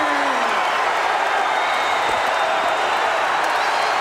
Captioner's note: audience cheering